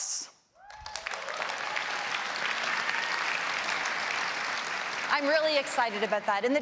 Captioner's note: applause